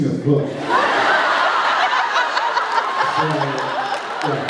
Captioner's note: laughs